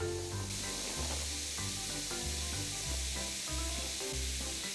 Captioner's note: fzzz